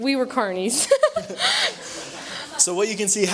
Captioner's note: laughther